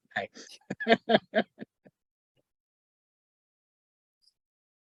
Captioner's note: chuckles